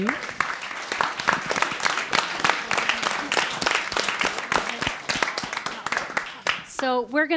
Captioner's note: applause